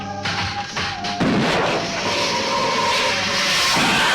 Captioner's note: gun firing